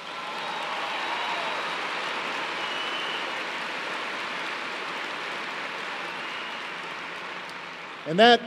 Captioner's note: applause